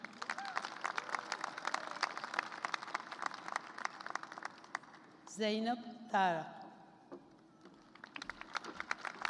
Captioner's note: applause; applause